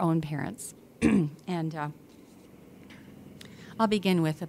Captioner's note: helicopter droning nearby